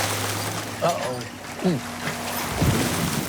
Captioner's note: clears throat